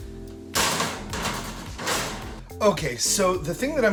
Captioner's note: cookie sheet banging